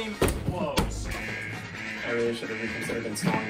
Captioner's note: siren blares